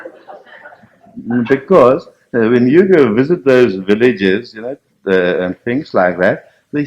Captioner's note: laughter